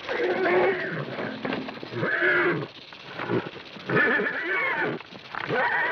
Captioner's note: rattle snake hissing; horse grunting